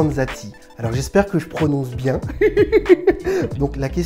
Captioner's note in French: rires